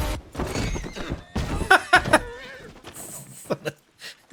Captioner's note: laughter